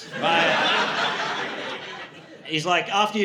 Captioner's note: audience laughing